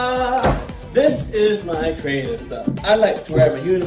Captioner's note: door closes